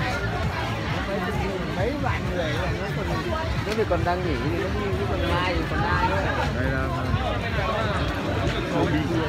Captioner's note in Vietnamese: Tiếng người nói ồn ào trong chợ